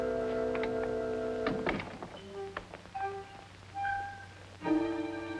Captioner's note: door latching